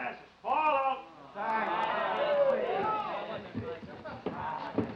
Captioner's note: men talking together